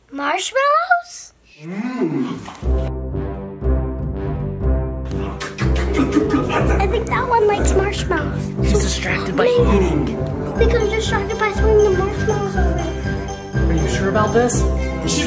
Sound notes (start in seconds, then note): 2.3 ghost eating marshmallows loudly